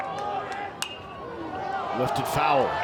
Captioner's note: fans cheer and applaud; bat dings